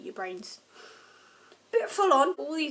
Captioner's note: inhales